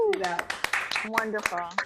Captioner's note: applause